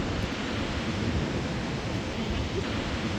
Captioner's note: sound of wind, crashing waves, people chatter